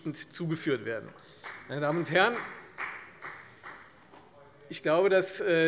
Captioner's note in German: Beifall bei der FDP